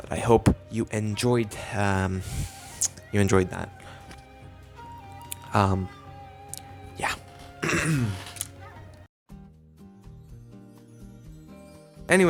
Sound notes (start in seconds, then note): 6.8 cough; 9.0 soft Music